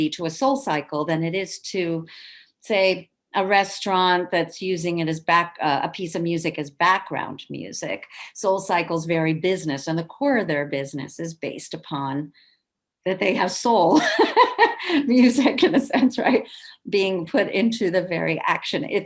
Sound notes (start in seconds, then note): 14.0 laughs